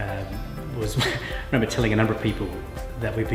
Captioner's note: chuckles